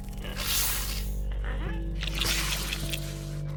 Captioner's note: Giree growls; plant hisses